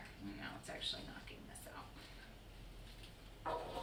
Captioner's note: quiet voice